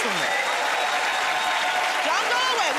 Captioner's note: cheers and applause